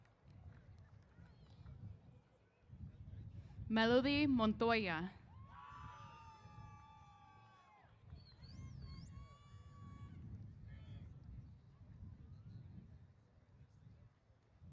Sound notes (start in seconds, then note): 5.4 applause & Cheers